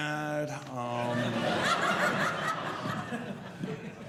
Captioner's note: audience laughing